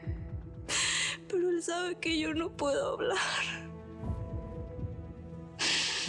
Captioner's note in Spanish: solloza